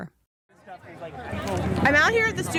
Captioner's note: background chatter